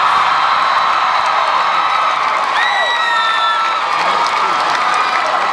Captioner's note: crowd cheering